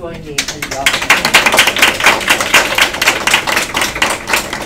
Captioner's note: applause